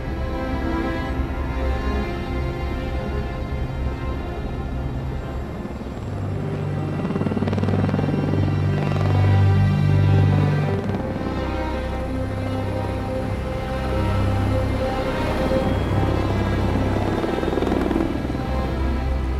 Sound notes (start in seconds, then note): 0.2 music intensifies; 6.7 helicopter whirring; 14.8 electronics powering